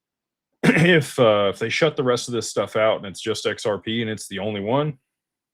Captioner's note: clears throat